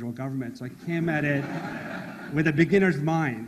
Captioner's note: audience laughs